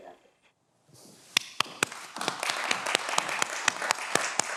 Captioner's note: everyone applauds